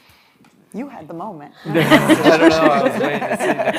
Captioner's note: audience laughing